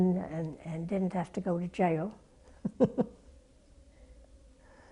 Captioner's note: laugh